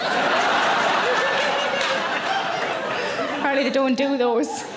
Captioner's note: audience laughing